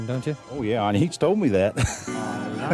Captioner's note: laughs